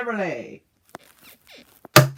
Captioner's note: bed squeaks